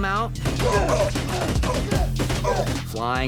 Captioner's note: grunting, groaning